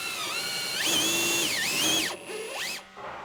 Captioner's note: drilling machine noises